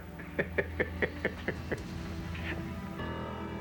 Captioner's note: laughing